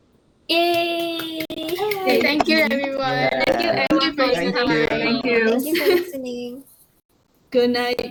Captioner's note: cheering